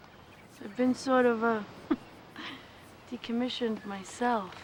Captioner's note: chuckles